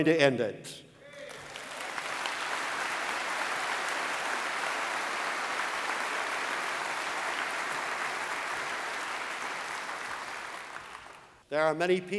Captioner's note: applause